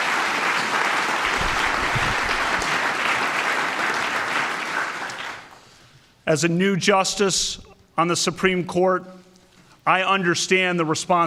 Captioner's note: applause